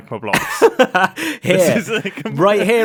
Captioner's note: laughs